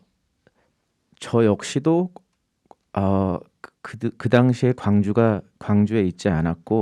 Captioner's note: speaking in Korean